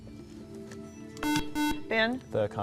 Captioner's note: beeping